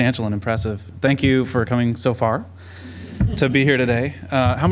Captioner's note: laughter